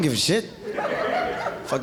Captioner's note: audience laughing